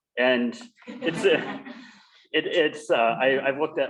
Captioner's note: laughter